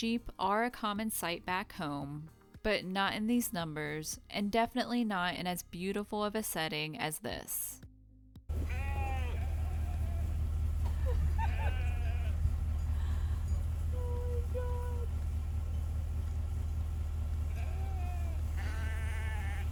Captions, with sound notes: Sheep are a common sight back home, but not in these numbers, and definitely not in as beautiful of a setting as this. [sheep sounds]